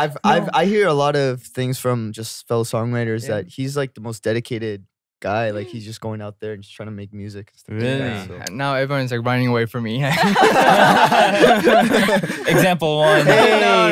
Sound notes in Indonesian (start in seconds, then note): 0.0 tertawa; 10.2 tertawa